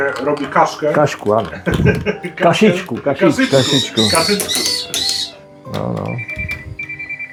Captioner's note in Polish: śmiech